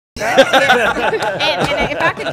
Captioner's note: everyone laughing